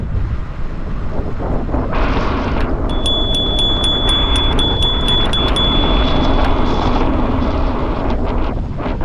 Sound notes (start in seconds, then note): 4.5 rings bell several times